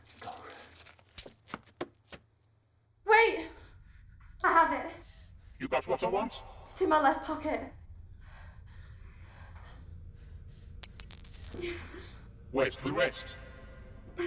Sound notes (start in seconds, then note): 10.8 coins clinking